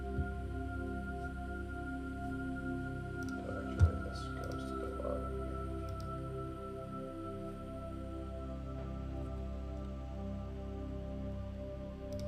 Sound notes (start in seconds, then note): 3.7 faintly speaking; 8.0 gentle calming music continues